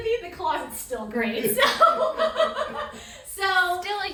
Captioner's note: laughs